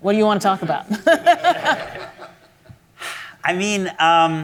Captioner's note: audience laughs; laughs